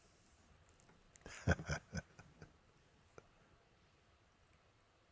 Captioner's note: Mooji lacht